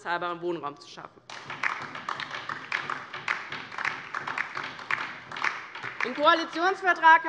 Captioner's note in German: Beifall DIE LINKE und vereinzelt SPD